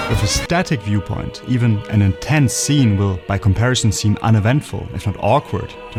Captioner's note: static